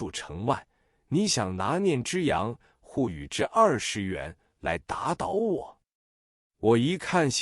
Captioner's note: twenty yuan in Shanghainese